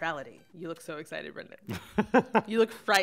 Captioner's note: chuckles